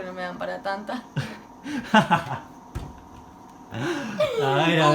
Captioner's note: laughing